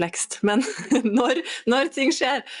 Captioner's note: laughter